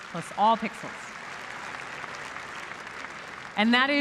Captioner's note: applause